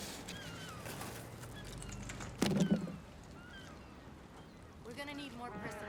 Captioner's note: seagulls screeching